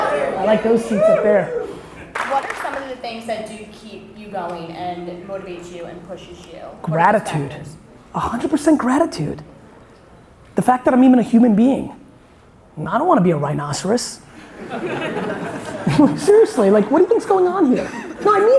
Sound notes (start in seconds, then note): 14.3 audience laughing